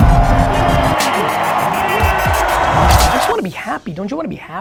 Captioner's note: crowd applause